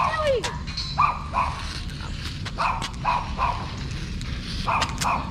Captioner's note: dogs barking